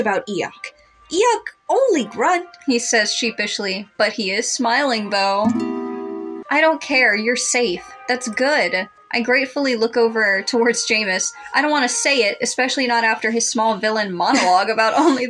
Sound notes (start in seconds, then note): 5.4 romantic Music; 14.9 chuckle